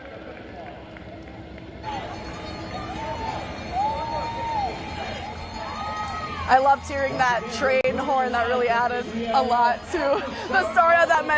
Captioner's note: horn